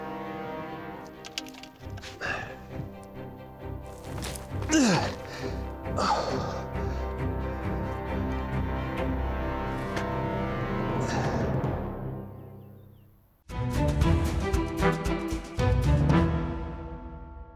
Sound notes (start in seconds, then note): 2.1 grunts; 4.6 groan